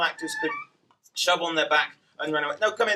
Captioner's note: door squeaks